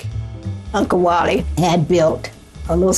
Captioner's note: soundbite of archived recording